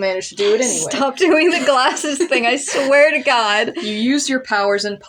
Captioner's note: laughing; laugh